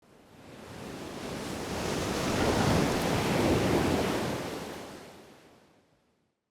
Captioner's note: waves crashing